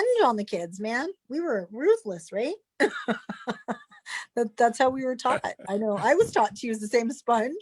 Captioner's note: chuckles